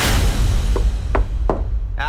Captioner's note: light knocking